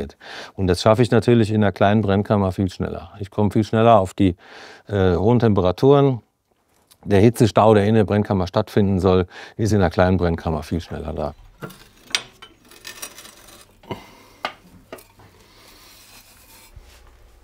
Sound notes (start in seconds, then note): 12.5 quiet grinding, groaning